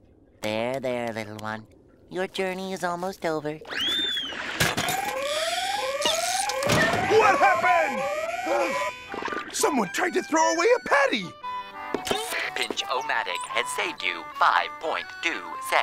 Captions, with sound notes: There, there, little one. Your journey is almost over. [alarm blares] What happened? [gasps] Someone tried to throw away a patty! Pinch-o-Matic has saved you 5.2 cents.